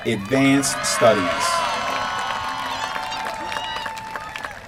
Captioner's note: applause